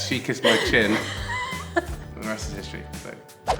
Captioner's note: Jessie laughs